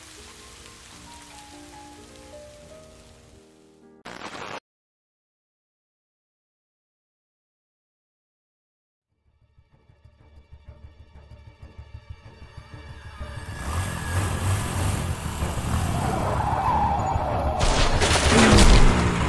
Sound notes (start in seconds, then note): 11.5 suspenseful music; 14.3 car engine; 16.8 screech